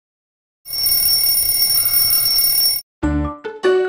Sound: alarm clock rings

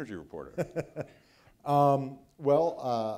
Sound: laughs

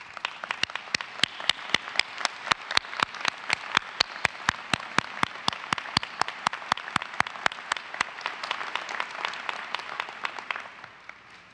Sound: applause

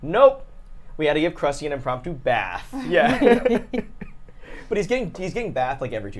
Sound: laughs

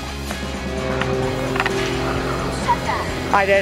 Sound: plane flying over

